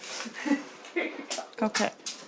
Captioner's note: all laugh